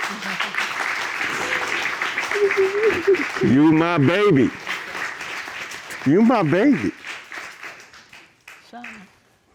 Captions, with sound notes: (APPLAUSE) (SOBBING CONTINUES) You're my baby. You're my baby.